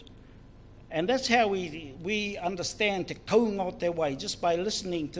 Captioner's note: speaks in foreign language